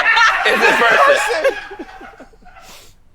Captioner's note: laughing